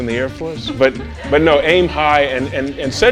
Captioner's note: laughs